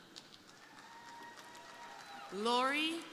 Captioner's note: crowd applauding; crowd cheering